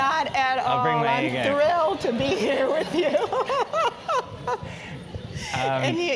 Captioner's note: laugh; laugh